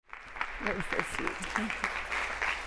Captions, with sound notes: (audience applauds) - Nice to see you too.